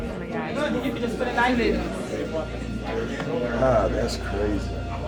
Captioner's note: overlapping chatter